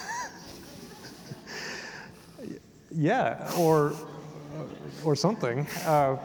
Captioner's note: laughing